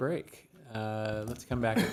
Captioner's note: laughter